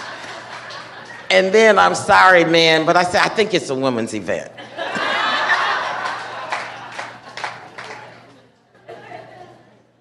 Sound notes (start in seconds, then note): 1.9 laughter